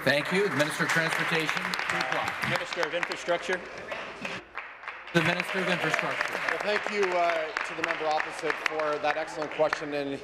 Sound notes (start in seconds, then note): 2.0 applause